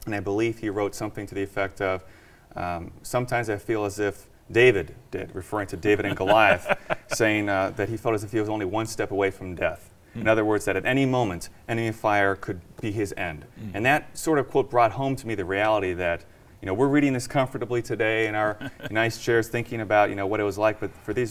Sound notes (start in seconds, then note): 5.9 laughs